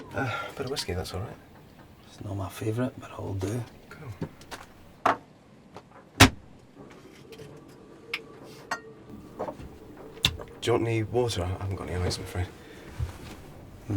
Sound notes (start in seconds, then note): 6.2 Theo closes compartment